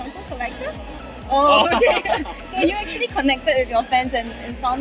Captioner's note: laughs